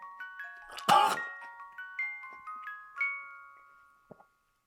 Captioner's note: Jacob coughs